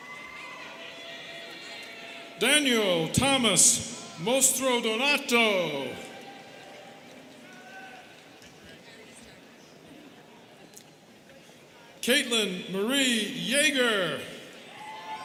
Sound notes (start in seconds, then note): 8.8 students chattering